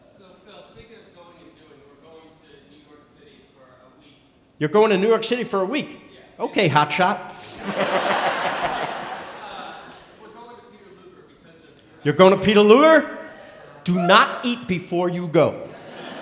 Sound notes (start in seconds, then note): 0.1 speaking softly; 7.4 laughing; 9.5 speaking softly; 16.0 speaking softly